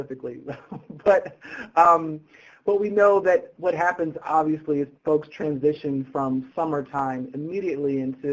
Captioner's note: laughing